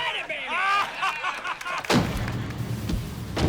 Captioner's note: laughter